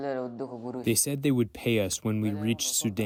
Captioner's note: through translator